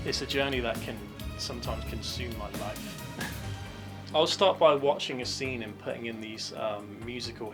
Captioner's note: chuckles